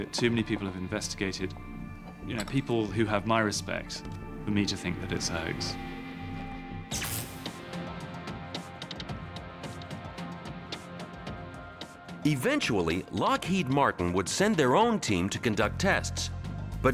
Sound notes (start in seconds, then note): 6.8 electricity buzzing; 7.8 upbeat music